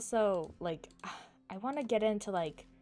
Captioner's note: sighs